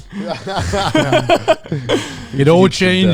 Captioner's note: all laughing